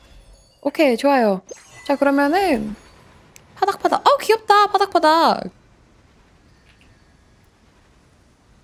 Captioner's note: flapping